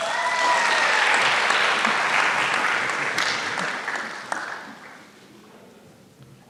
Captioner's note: applause